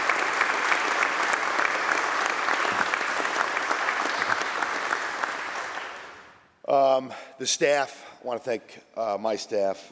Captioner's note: applause